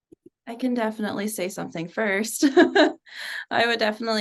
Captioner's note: laughs